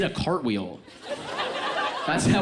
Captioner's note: audience laughs